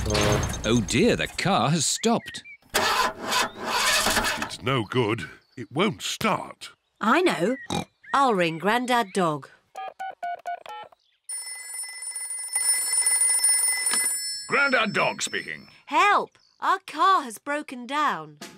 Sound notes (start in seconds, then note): 2.8 engine sputters; 7.6 snorts; 9.7 phone rings; 9.8 buttons beeping